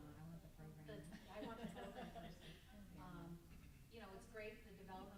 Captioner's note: group laughs